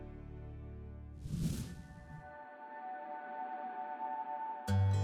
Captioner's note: air whooshing